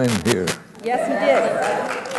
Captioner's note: applause